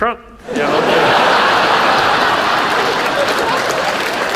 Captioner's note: audience laughs; audience applauds